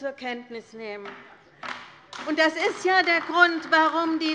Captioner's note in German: Beifall bei der LINKEN